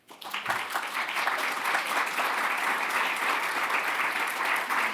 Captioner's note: audience applauding